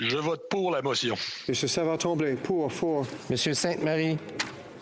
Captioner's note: speaking FRENCH